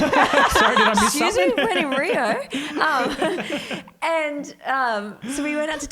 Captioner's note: laughs; chuckles